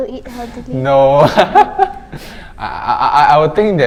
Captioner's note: laughing